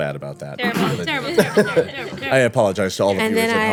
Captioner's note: laughing